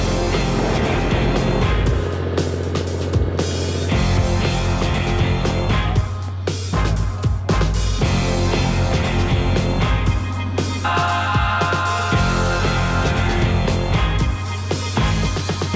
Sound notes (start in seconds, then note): 2.3 engine roaring; 5.2 upbeat music